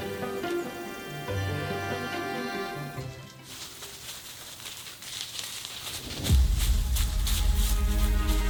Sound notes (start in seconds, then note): 3.0 brush rustling